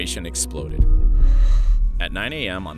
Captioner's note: graphics bang